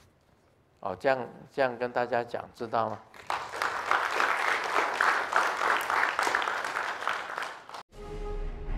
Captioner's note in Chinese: 眾鼓掌